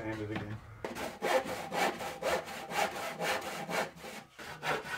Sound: saw cutting

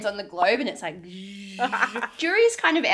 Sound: buzzing

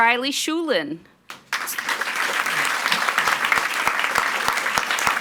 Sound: audience applauds

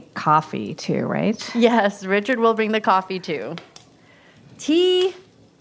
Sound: laughing

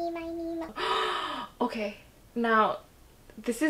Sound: another dramatic gasp

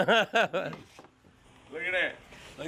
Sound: laughs

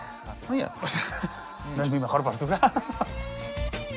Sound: laughs

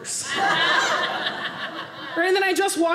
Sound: audience laughing

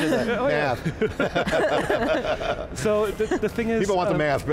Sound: all laughing

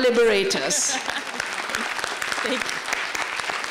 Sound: applause

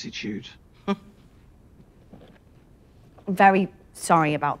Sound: interviewee laughs

